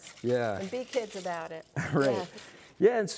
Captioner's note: laughing